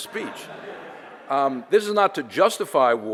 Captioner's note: audience laughter